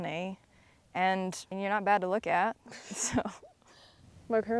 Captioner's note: chuckles